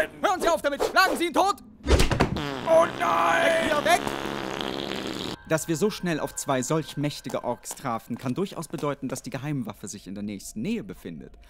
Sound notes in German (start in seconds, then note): 2.2 Ork furzt lauter